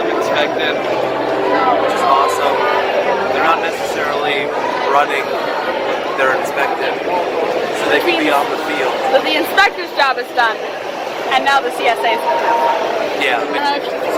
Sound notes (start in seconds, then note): none